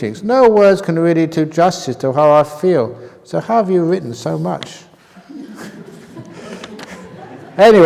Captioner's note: laughter